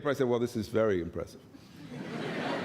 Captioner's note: laughter